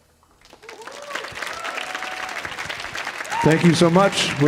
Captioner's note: audience applauding